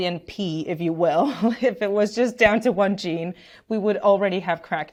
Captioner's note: chuckles